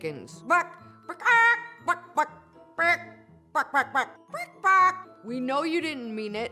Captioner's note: clucking